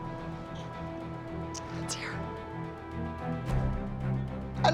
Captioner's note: whispers